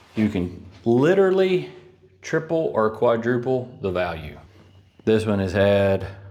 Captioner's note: none